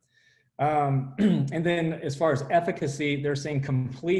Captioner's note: clearing voice